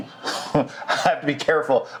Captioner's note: giggles